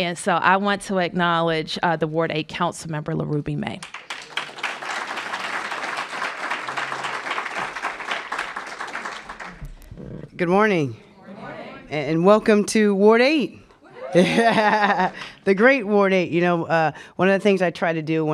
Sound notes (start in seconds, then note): 7.0 applause